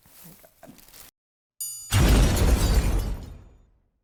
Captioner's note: triangle ringing; explosion